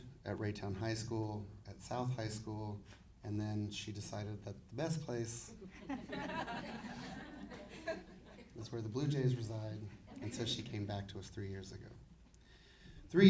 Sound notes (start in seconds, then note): 5.6 audience laughing